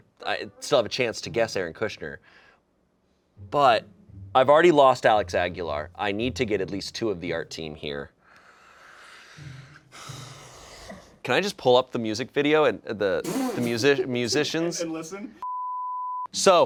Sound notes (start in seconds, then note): 9.0 sighs; 15.4 beep